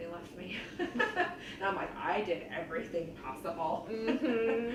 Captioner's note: laughs